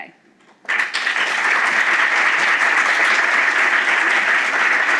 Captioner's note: applause